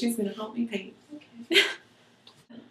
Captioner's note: laughs